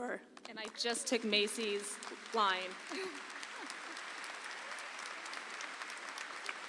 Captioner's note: audience applauds